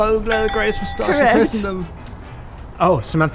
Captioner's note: bell rings